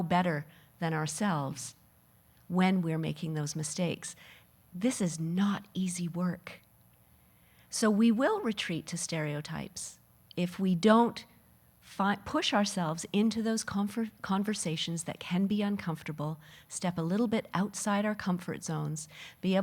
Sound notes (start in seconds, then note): none